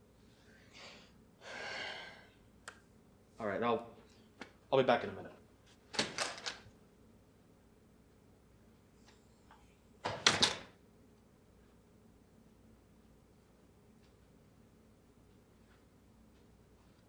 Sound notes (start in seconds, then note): 1.4 Memory Guide sighs; 5.9 door opens; 10.0 door closes